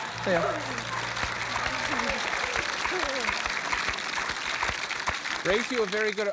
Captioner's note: applause